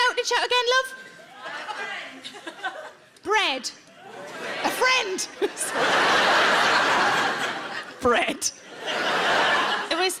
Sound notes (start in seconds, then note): 5.3 giggles; 6.1 audience laughs